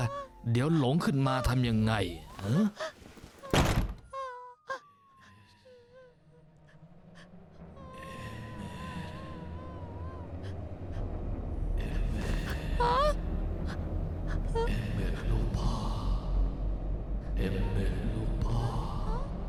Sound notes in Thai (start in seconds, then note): 3.5 เสียงปิดประตู; 11.0 เสียงกระซิบเรียก